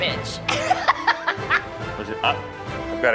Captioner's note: laughing